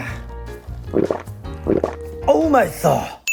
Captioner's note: slurping